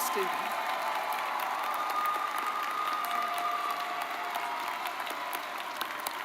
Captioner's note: audience cheers and applauds